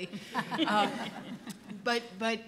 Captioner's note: panel laughs